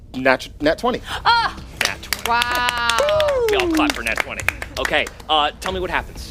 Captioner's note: all clapping and cheering